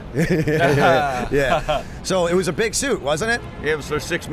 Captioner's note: chuckle